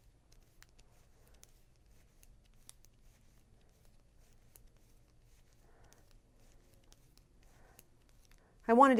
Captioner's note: pause